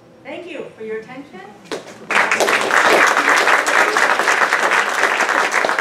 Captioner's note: applause